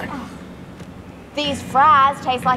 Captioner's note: Ferra gagging